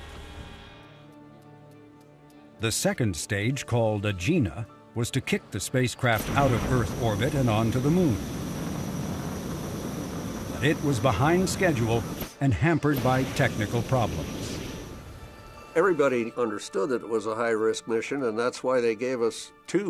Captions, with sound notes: The second stage called Agena was to kick the spacecraft out of Earth orbit and onto the Moon. [rocket engine roaring] It was behind schedule and hampered by technical problems. Everybody understood that it was a high risk mission.